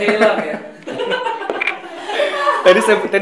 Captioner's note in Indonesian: evil laugh